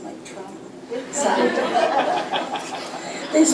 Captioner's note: laughter